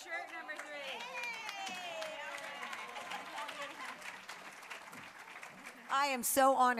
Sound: applause

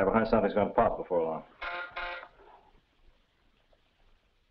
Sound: intercom buzzes

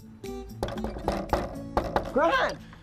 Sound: knocking on gate

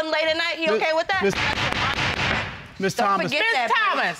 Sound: gavel banging

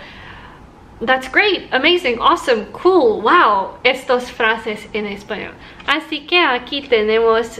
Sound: phrases like these in Spanish

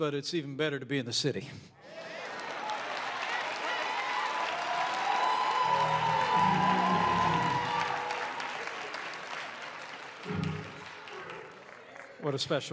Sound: applause

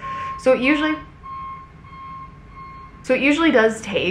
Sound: machine beeping

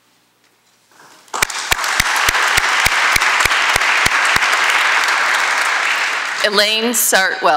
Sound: applause

